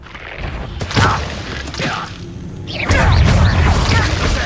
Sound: goblins grunting

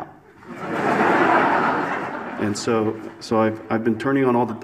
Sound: audience laughs

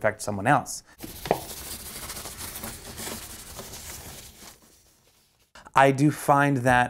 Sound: scrubbing door handle vigorously

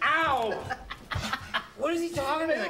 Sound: laughs

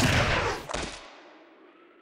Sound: splat

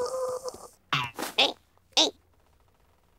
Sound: grunting

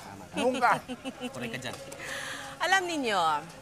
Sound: chuckles

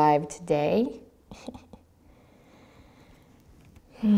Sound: giggles

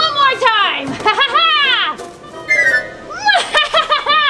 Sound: laughing

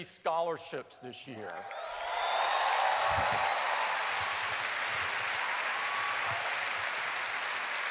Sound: cheers and applause

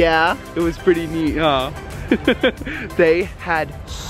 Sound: laughs

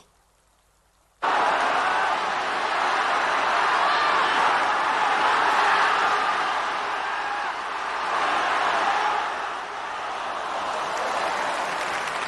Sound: applause

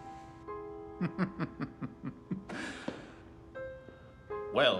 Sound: laughs

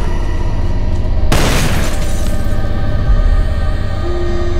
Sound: gun firing; glass shattering; tense music continues

